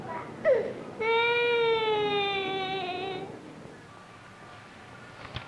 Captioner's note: crying